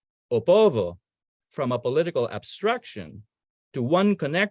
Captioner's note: speaking in foreign language